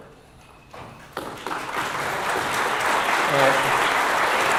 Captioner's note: audience applauding